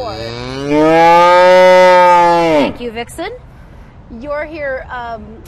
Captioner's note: cow moos loudly